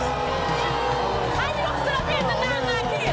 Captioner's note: audience boos